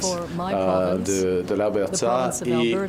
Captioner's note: speaking french